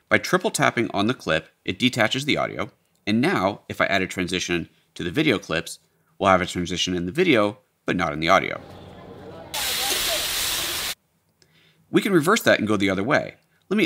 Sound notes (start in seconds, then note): 9.5 food frying